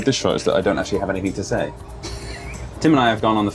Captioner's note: laughs